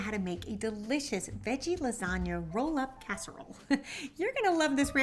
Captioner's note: chuckling